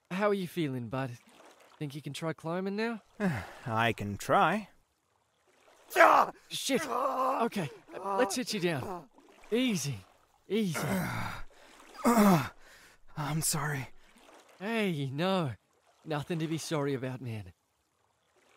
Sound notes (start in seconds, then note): 6.6 cries out in pain; 12.0 groans